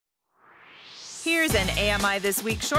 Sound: swoosh

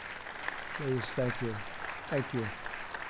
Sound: applause

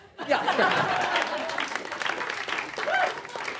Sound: applause

